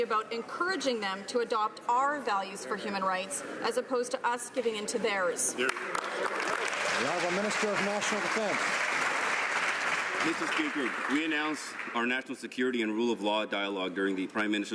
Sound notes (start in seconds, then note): 10.4 some Applause